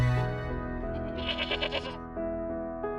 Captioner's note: goat bleating